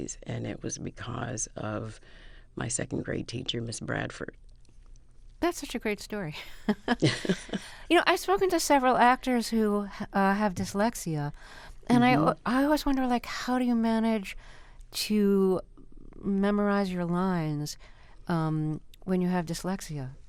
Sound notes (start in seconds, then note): 6.4 laughter